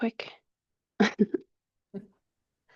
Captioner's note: chuckles